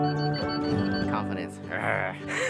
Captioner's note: laughs